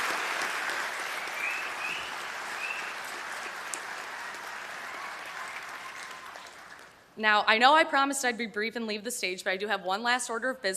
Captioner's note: applause